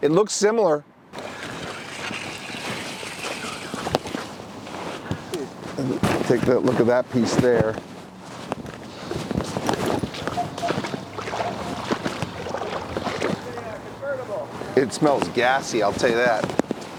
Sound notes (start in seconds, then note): 1.1 grill scrapping; 9.5 water splashing